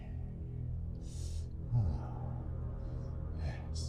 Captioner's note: whinces and moaning